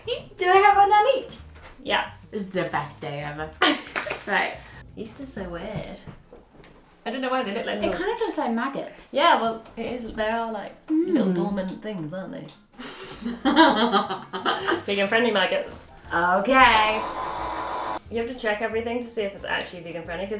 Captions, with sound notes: Do I have one on each? Yep. This is the best day ever. [laughs] Yeast is so weird. That kinda looks like maggots. Well yes, they are like little dormant things aren't they? [laughs] Vegan friendly maggots. Okay... [mixer noise] Do you have to check everything to see if it's actually vegan friendly?